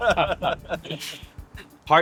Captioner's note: laughing